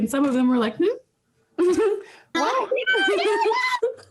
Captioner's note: laughing